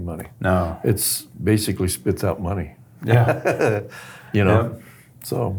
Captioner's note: laughs